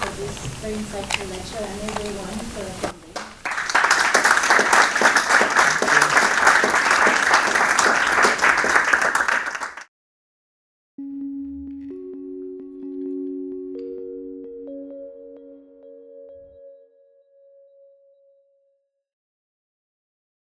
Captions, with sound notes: for this insightful lecture, and everyone, for attending. (audience applauds) (bright music)